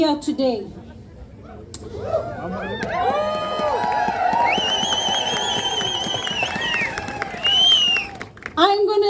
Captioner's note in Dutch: Gejuich